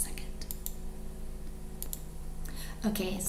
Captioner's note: computer mouse clicks